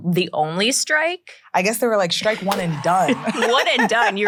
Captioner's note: laughs